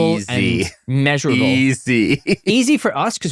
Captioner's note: laughs